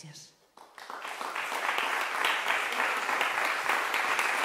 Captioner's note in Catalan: Aplaudiments